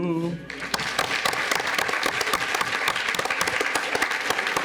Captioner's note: audience applauds